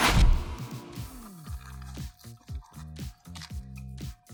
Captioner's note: crunching